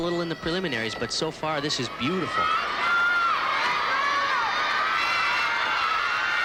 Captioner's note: applause